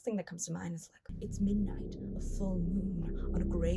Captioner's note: ominous atmospheric noise